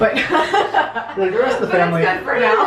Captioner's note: laughs